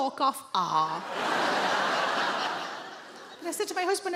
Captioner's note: audience laughing